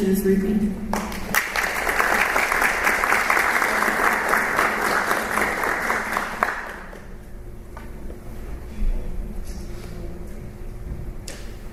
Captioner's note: applause